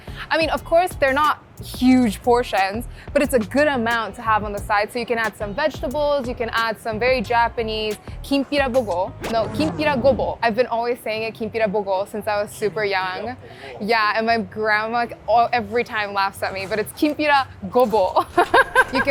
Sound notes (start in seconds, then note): 8.5 record slowing; 18.2 laughing